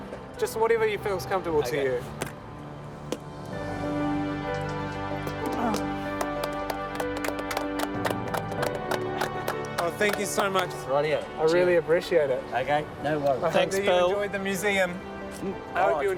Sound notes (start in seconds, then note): 3.4 dramatic music; 5.1 group clapping